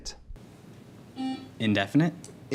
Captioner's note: buzzing